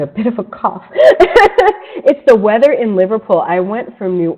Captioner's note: laughs